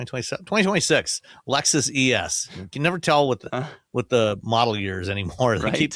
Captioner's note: chuckles